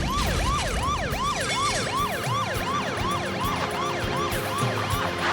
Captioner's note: fire crackling; glass shattering; siren blaring